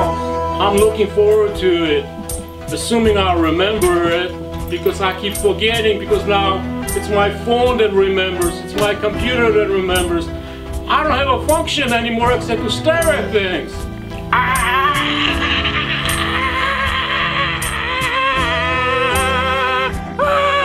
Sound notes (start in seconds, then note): 14.3 screaming